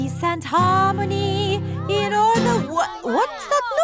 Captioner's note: commotion